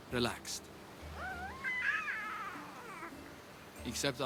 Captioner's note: baby noises